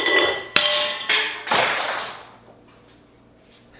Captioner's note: clattering